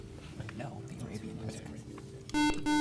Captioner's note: beeping